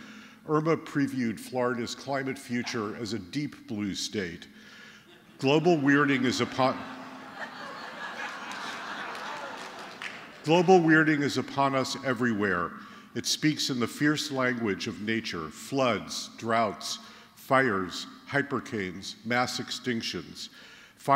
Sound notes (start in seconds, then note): 6.4 laughter